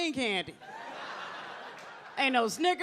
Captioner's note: audience laughs